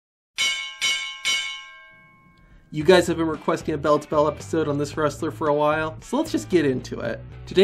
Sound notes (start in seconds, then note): 0.4 bell ringing